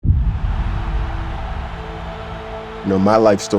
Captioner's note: crowd cheering